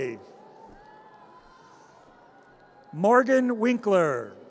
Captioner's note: audience cheers